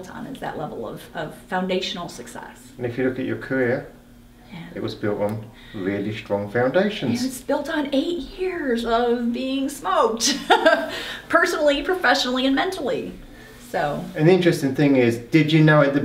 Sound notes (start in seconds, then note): 10.2 laughs